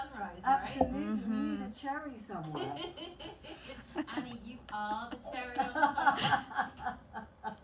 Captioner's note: laughter